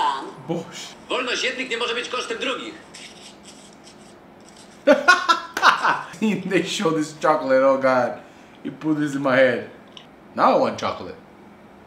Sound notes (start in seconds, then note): 0.0 laugh; 0.3 foreign language; 4.4 laugh